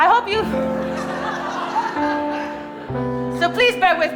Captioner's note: audience laughing